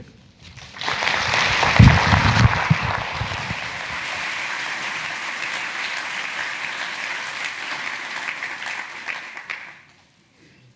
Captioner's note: applause